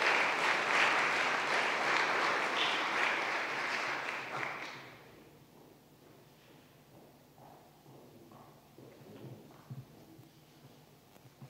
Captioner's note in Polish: oklaski